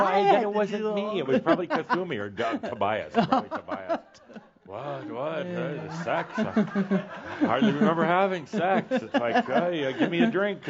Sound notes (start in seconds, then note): 1.2 more chuckles; 1.6 she giggles